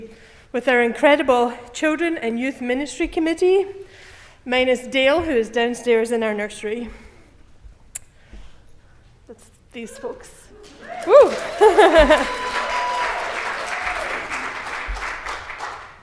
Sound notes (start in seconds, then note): 7.9 clicks tongue; 10.5 laughs; 10.6 cheer in background